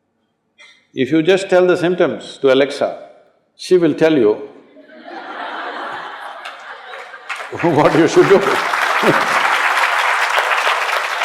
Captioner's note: laughter/Applause